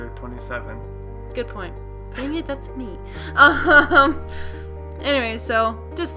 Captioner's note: uncomfortably laughs